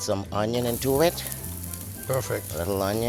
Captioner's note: pan sizzling